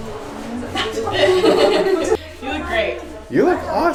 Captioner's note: woman laughs